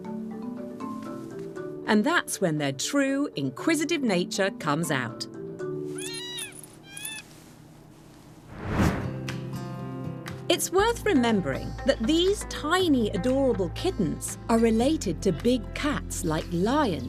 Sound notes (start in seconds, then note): 6.0 kitten meows